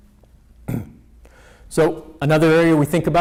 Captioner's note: clears throat